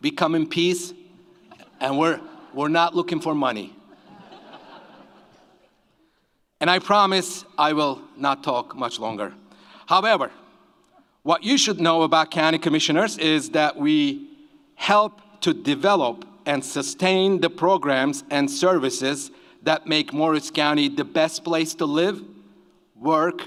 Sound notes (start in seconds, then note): 3.9 audience laughs